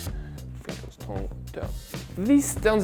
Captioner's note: mumbles in foreign language